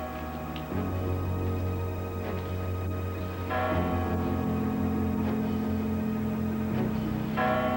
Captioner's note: crch bell chimes